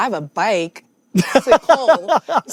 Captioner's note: laughing